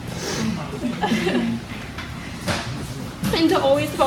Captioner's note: audience chuckles